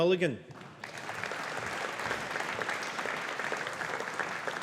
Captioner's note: audience applauding